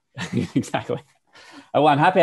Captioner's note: laughing